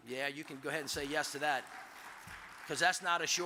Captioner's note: audience applauds